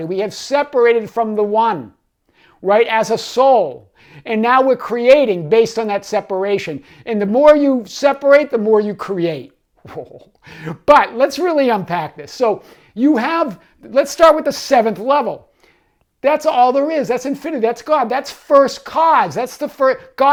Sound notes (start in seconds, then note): 9.9 laughs